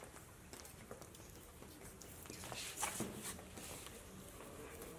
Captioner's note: footsteps